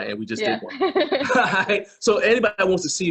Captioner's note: both laughing